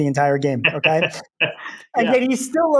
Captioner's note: laughing